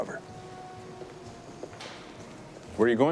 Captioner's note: footstep